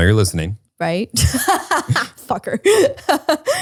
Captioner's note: laughs